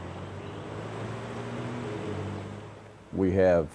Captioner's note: traffic noise